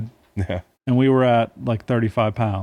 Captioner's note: laughing